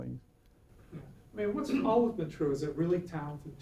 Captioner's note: voiceover